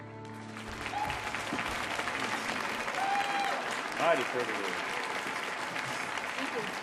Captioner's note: audience applauding; audience cheering